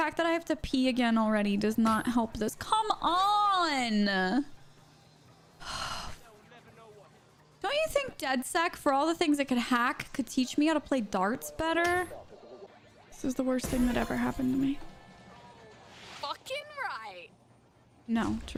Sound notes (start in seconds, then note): 5.6 sighing